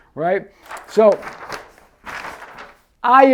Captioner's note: paper rustles